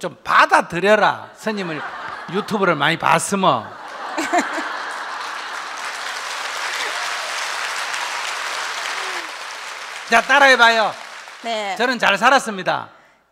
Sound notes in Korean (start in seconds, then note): 3.7 질문자와 청중 웃음과 박수